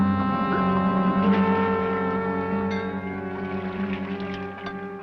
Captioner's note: water splashing